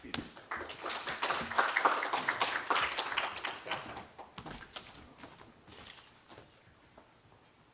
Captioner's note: applause